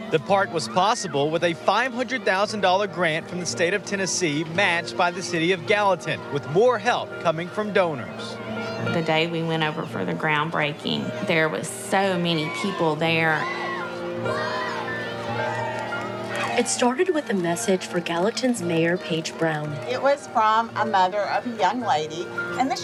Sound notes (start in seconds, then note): 12.1 everyone cheering